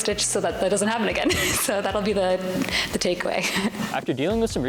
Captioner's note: laughs